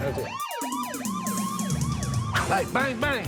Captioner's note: siren wailing